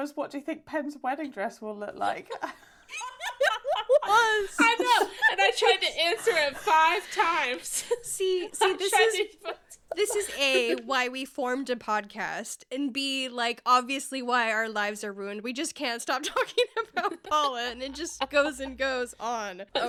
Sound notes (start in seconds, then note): 2.8 laughing